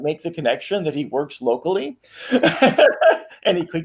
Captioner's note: laughs